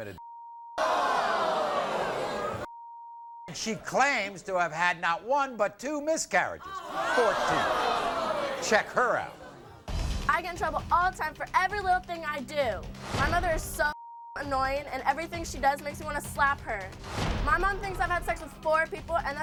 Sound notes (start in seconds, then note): 0.1 beep; 0.8 audience groans; 2.8 beeps; 13.9 beep